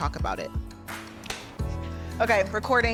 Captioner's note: clapboard clapping